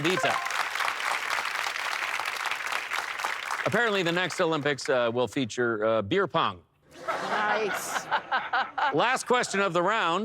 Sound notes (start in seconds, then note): 1.9 applause; 6.9 laughter